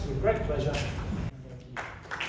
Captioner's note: applause